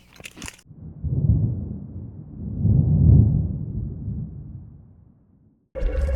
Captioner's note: chewing; thunder; drones ambulating, beeping to each other